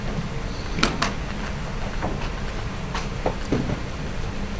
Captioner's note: clicking sounds